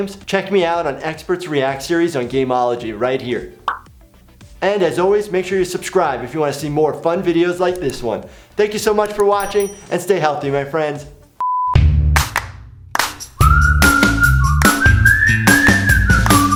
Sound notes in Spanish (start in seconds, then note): 11.4 pitido; 13.2 música alegre y silbidos